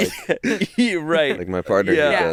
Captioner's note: laughs